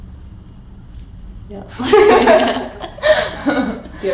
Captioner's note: laughs